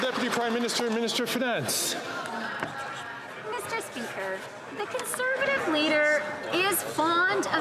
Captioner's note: some Applause